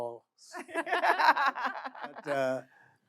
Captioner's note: audience laughing